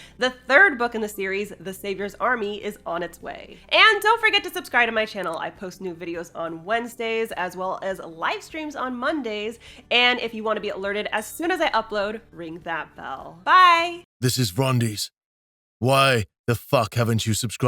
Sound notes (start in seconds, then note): 14.2 rumbling Male Voice